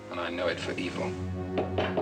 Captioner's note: knocking